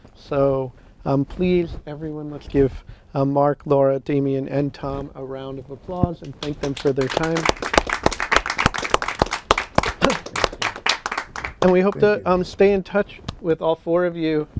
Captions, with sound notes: So, please, everyone give Mark, Laura, Demian, and Tom a round of applause and thank them for their time. [ Applause ] And we hope to stay in touch with all four of you.